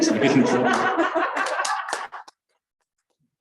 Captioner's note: laughter